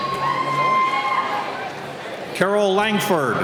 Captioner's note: cheering